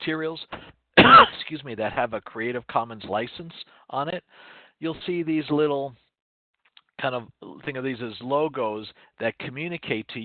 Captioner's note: cough